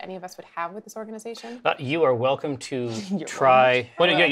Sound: whispers

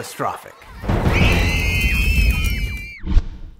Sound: lobsters scream

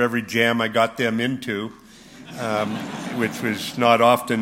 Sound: laughter

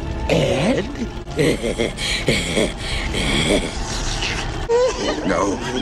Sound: Mako laughs deviously

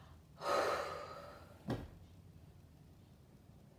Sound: exhales

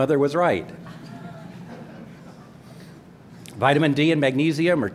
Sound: laughter

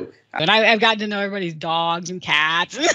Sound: laughter

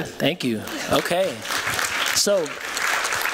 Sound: applause

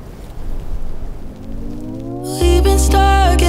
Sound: wind blowing; crackling

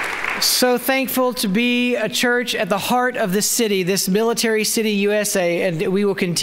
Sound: applause

